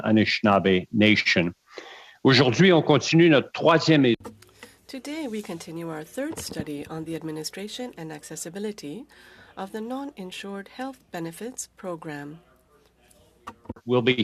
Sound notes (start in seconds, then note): 7.6 speaking French